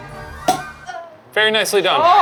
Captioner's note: cork popping; crew moaning